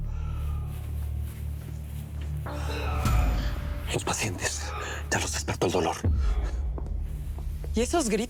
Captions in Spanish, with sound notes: [Quejidos] - Los pacientes. Ya los despertó el dolor.